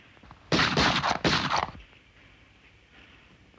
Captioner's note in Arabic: طلقات نارية